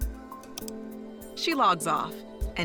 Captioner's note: clicks